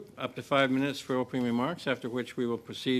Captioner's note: speaking French